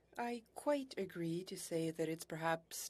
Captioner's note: speaking French